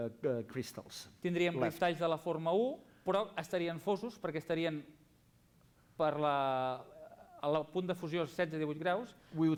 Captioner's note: non-english speech